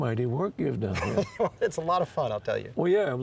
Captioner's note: chuckles